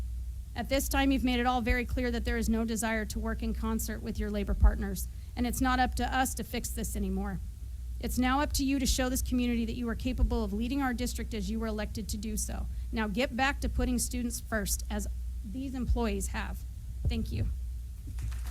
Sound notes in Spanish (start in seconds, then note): 18.0 aplausos